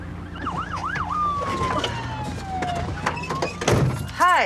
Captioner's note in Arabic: صافرة الإنذار